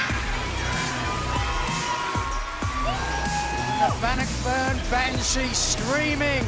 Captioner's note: crowd cheering